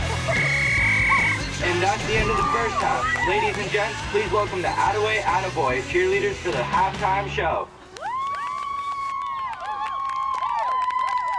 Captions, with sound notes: (bell whistling) - And that's the end of the first half! Ladies and gents, please welcome the Attaway Attaboy cheerleaders for the halftime show! (girls cheering)